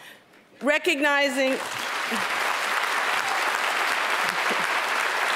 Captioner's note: applause